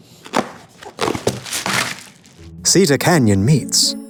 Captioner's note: paper rustling